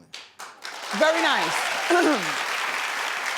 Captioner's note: audience clapping